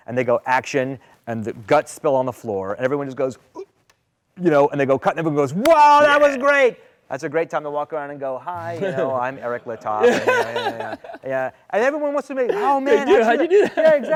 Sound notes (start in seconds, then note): 3.5 shocked gasp; 8.7 laughter